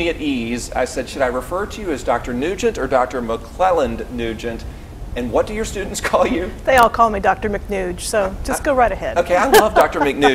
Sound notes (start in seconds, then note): 5.9 chuckles; 9.3 laughs